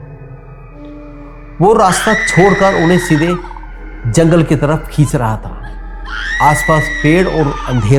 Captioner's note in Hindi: चीखने की आवाज़